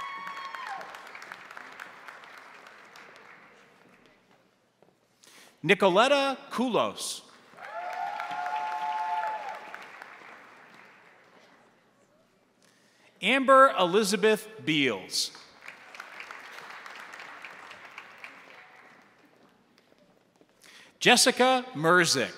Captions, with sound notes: (crowd applauding) (crowd cheering) Nicoletta Kulos. (crowd applauding) (crowd cheering) Amber Elizabeth Beels. (crowd applauding) Jessica Merzek.